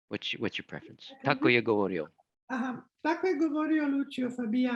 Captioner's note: speaking in foreign language